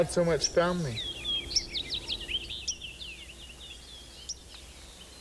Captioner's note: birds chirping